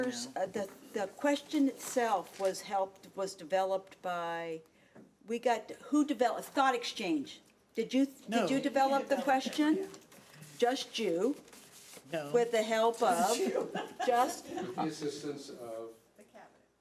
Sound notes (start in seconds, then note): 13.2 audience laughing